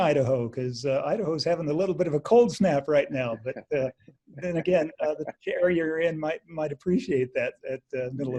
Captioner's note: laughs